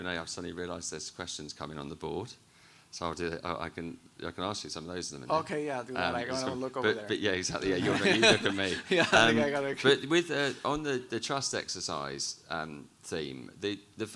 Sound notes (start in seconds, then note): 7.6 both laughing